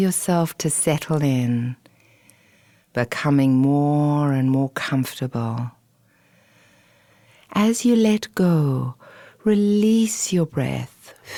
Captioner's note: exhale